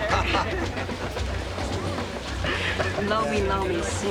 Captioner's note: laughs